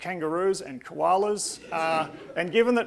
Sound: audience laughing

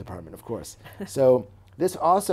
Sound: chuckles

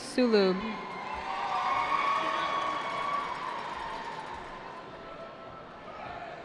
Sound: cheering

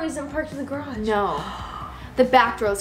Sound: gasps

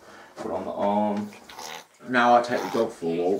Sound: dog scratching it”s throat

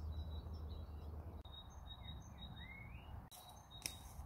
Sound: bird song

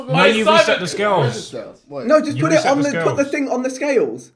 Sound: laughing

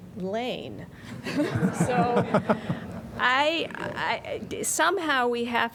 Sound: laughter

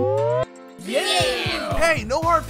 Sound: cheering

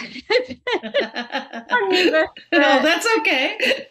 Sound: laughs

